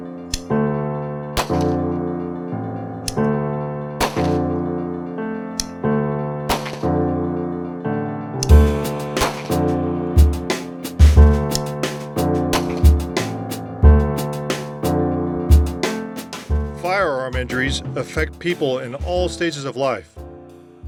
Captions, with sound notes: (Revolver cylinder click) (Gunshot) (Revolver cylinder click) (Gunshot) (Revolver cylinder click) (Gunshot) (Revolver cylinder click) (Gunshot) (Revolver cylinder click) (Gunshot) Firearm injuries affect people in all stages of life.